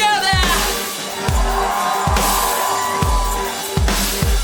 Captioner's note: audience cheers